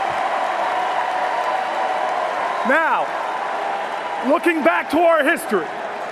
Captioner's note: cheers and Applause